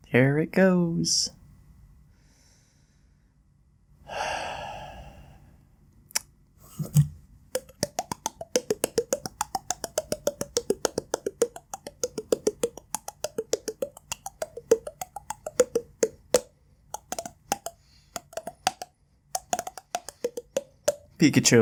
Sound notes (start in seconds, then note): 4.0 sigh; 7.5 mouth noises